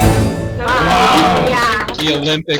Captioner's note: clapping